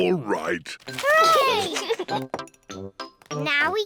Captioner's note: giggles